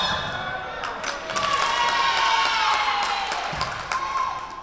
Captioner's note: Tigers cheering; whistle blowing